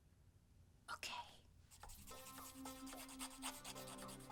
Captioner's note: whispering